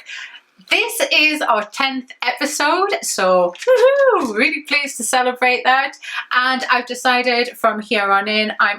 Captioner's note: whoo hoo